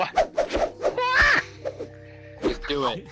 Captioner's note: yelling